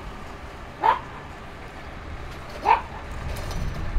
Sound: dog barking

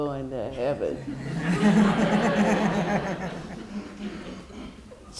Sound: laughter

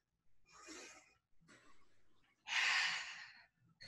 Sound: exhaling

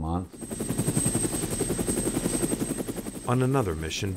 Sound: helicopter blades whirring

